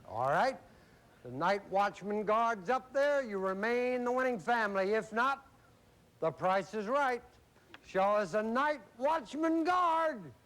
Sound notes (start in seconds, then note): none